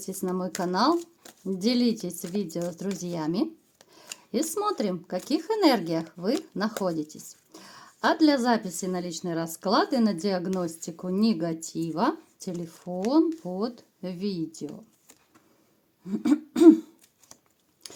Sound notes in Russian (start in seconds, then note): 16.0 откашливается